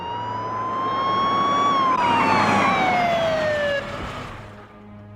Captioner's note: police siren wailing; tires squealing